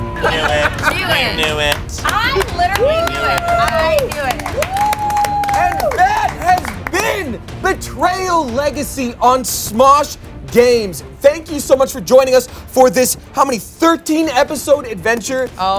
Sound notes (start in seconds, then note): 4.7 group cheering